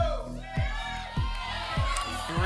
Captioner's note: audience shouting numbers